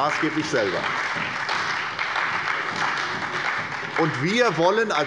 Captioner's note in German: Beifall bei der SPD